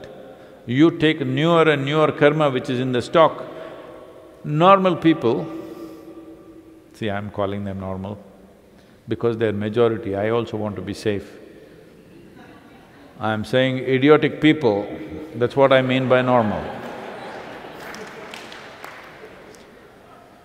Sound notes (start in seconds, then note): 11.8 few laugh; 16.5 laughter/Applause